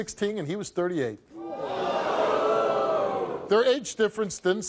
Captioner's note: audience vocalizes